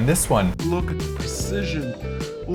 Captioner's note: "sexy" voice